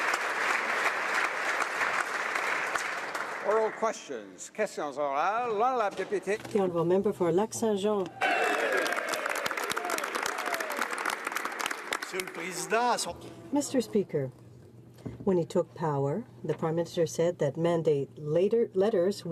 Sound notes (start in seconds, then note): 0.0 applause; 7.5 speaking French; 12.8 some Applause